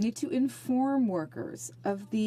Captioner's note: speaking in French